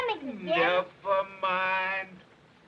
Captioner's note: happily